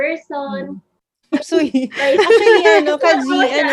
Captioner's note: laughing